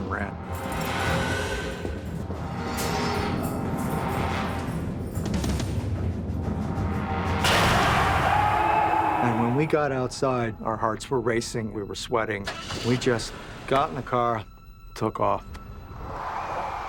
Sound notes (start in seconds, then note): 6.5 metal clangs; 7.6 screaming; 12.4 car engine starts; 15.1 tires screeching